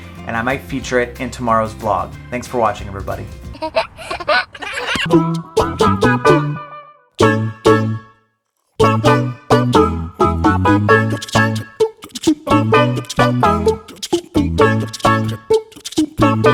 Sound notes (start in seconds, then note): 3.5 laughs; 4.8 quirky music